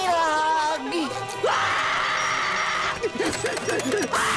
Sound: screaming

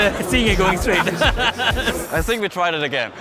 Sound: laughing

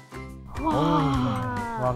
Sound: all gasp

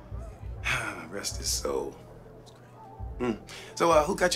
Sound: sighs

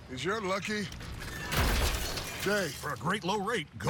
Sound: crash

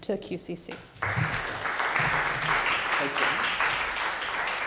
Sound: audience applauding

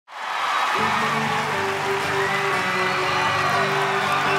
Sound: audience applauds

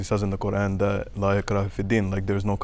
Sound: speaking in a foreign language

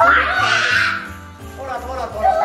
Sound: screaming

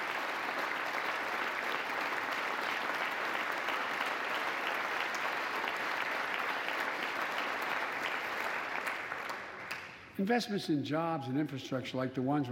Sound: applause

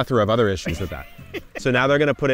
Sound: laughing

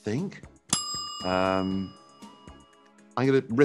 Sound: timer dings

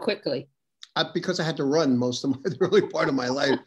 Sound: laughs

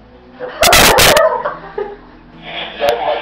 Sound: ear rape laughter

